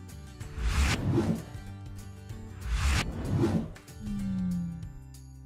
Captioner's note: graphic swooshing